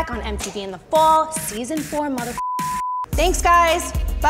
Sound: computer bleeps

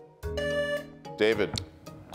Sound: buzzer beeps

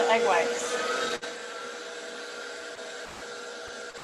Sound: mixer whirring

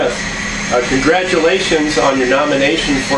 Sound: loud whining saw blade in background

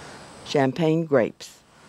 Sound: voiceover

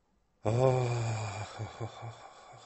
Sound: nikos sighs again

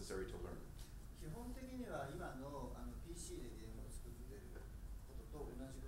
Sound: speaking in foreign language

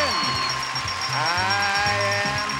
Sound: audience cheers

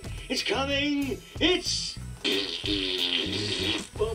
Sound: fart sound

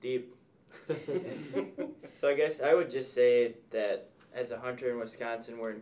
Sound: laughs

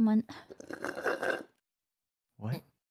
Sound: sip

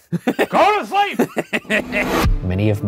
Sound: laughing

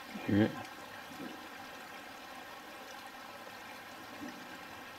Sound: faint distant knocks; faint knocks

